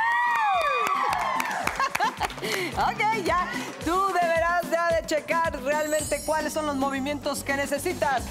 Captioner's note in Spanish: Gritos y exclamaciones